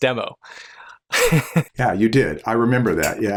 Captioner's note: laughter